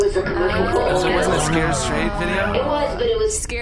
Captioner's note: everyone goes ‘oh’